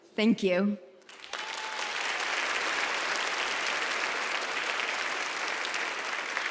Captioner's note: audience applauds